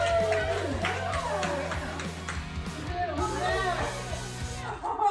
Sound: bystander cheering; group cheering

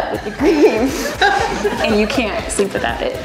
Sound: staff members laughs

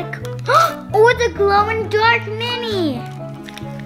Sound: gasps

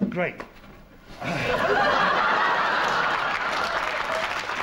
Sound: audience laughs

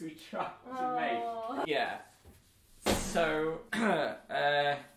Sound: groans

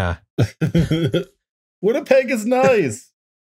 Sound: laughter

